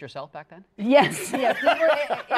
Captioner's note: laughter